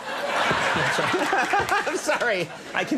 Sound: Conan laughing

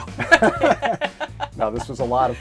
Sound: both laugh

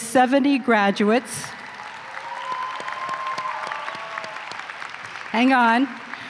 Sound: applause and cheering

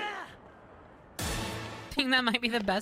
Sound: Tony Hawk Stunt SFX

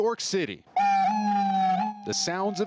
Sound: siren wailing

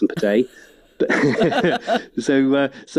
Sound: laughs

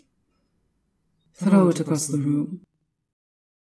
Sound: her voice resonates with compelling authority

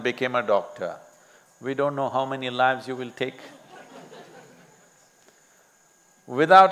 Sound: laughter

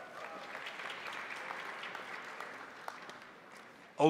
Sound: crowd applauding

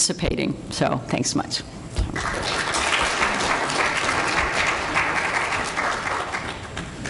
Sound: applause

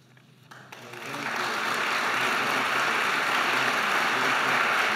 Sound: audience applauding

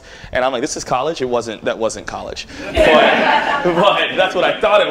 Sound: laughter

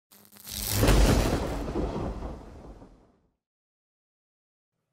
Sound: thunder crackling

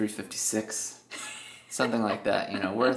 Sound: laughing

